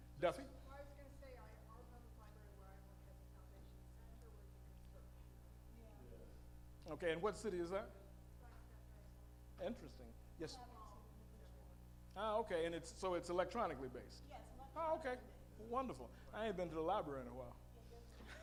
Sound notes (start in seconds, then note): 1.6 female audience member speaking; 8.7 female audience member speaking; 14.4 female audience member speaking; 18.1 male audience member speaking